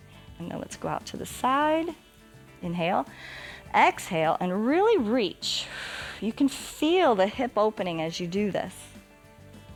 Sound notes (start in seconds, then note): 3.0 inhales; 3.1 exhales